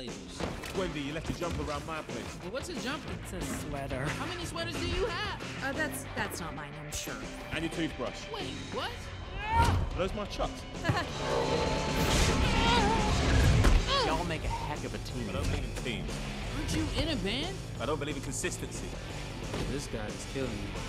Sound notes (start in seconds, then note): 9.3 Pav yells